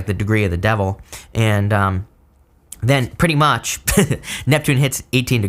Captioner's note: chuckles